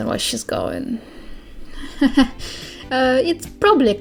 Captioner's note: nervous laugh